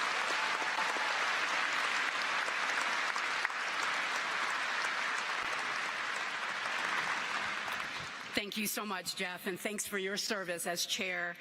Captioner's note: applause